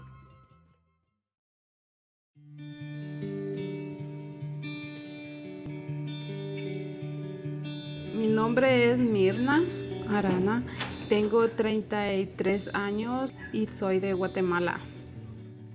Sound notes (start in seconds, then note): 7.7 in Spanish